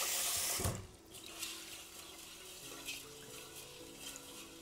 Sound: water swishing

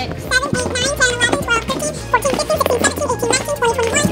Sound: rapid sped up counting

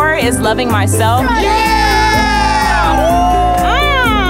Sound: cheering

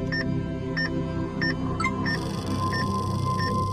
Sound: EKG machine beeping; electronic chime

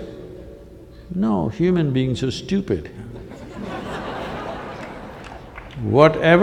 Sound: laughter

